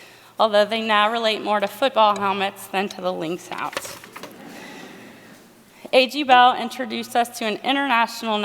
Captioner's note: laughter